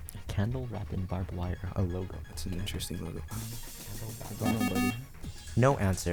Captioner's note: wispering